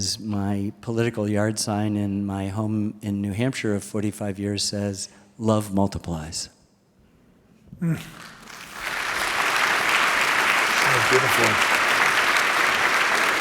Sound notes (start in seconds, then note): 6.6 applause